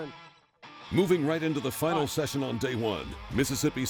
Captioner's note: voiceover